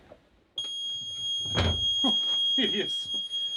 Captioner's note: alarm beeping